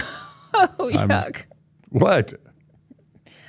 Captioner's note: laughs